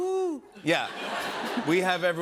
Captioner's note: laughter